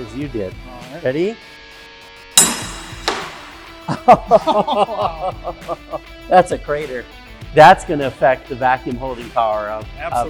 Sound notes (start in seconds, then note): 2.4 ball bangs on deck; 3.8 laugh